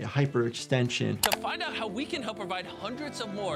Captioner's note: mouse clicking